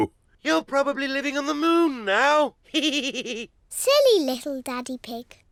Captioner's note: laughs; chuckles